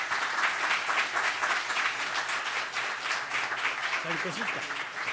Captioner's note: audience clapping